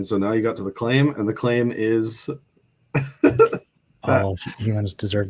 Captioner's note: laughter